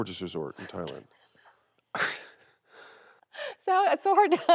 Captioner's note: Jon laughing softly